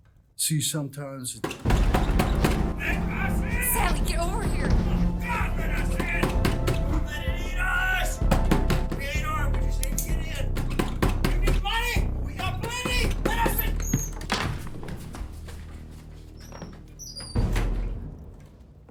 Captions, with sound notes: See, sometimes it... [Loud banging on door] Let us in! Sally, get over here! For the love of God, let us in! [Banging] Don’t let it eat us! [Banging] We ain’t armed, we just need to get in. [Banging] You need money? Well, we got plenty! Let us in... [Loud thud] [Door slams]